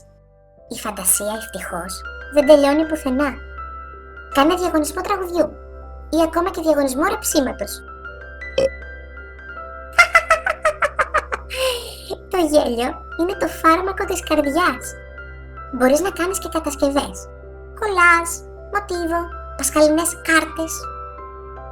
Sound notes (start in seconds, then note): 8.6 Red picou picou burps